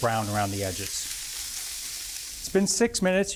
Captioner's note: skillet sizzles